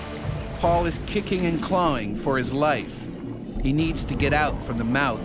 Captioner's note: voiceover